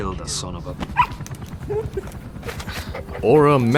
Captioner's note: pup barks